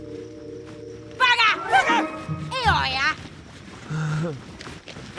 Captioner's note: speaking angry gibberish